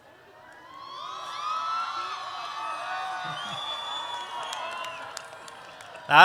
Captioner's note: applause